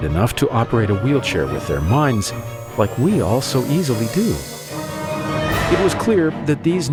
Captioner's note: faster music; revving sound